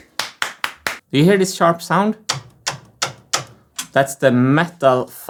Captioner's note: clapping; metal clicking